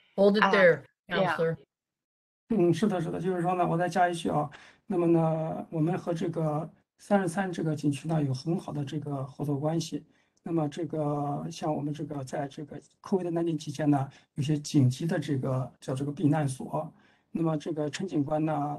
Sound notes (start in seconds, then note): 5.8 speaks in Mandarin